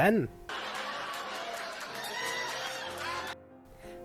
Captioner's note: canned laughter that is cut off abruptly